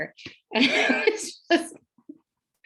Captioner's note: ríe